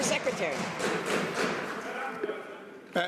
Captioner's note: some Applause